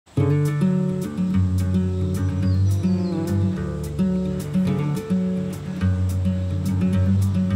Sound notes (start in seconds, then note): 0.0 soft guitar music begins; 3.3 bee buzzing